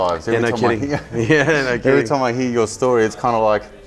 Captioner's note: laughs